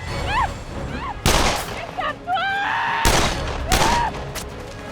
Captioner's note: screaming continues; gunshots; screaming